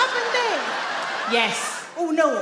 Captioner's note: audience laugh